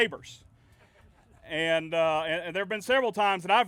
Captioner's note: laughing